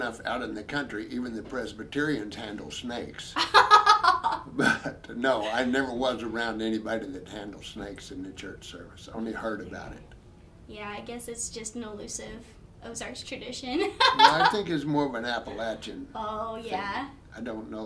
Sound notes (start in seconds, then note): 3.4 both laughing